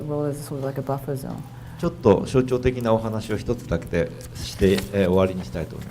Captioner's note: speaking foreign language